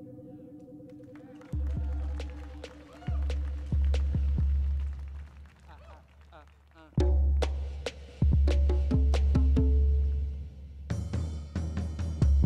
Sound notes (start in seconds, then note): 1.0 audience cheering; 1.4 rhythmic drum music